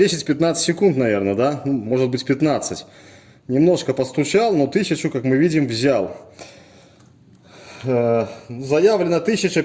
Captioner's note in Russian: вздыхает